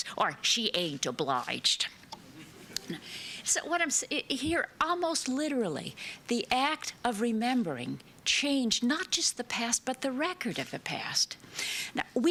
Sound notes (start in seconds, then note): 2.3 laughter